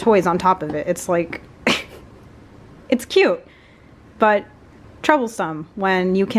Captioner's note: laughs